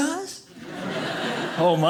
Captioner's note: audience laughing